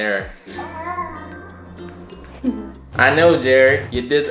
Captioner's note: baby cooing